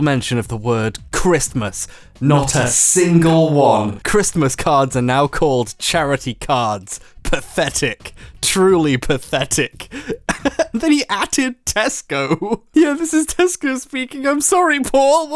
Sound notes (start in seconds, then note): 9.8 laughs